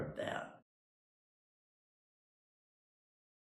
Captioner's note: silence